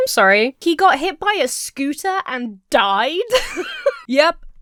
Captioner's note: Emma laughs